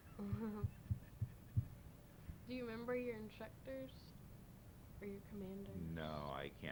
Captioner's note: laughs